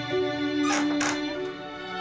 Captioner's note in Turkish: Kapı kapanır